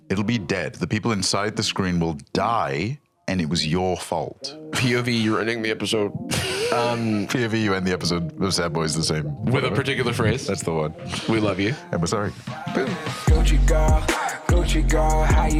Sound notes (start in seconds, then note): 6.2 laughs; 12.3 outro music